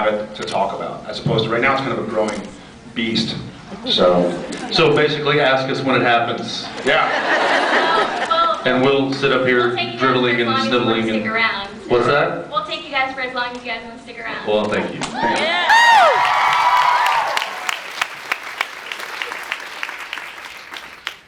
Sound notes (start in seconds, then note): 8.2 laughs; 15.2 cheers; 15.2 cheers, applauds; 17.5 applauds